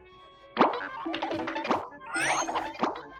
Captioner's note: goofy cartoon sound effects playing